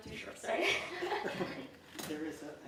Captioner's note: laughing